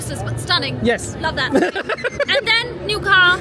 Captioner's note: laughing